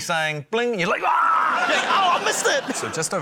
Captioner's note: yells